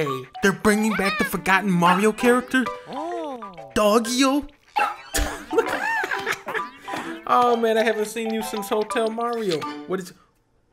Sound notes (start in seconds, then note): 4.6 laughs; 4.7 giggle